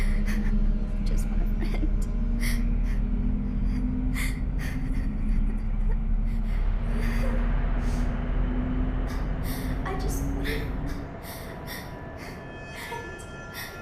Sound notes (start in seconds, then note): 3.5 sobbing